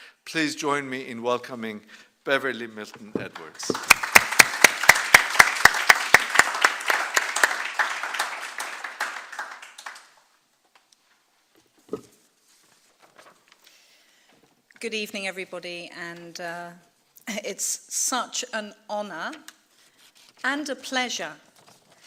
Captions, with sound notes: Please join me in welcoming Beverley Milton-Edwards. (applause) - Good evening, everybody, and it's such an honor and a pleasure to be here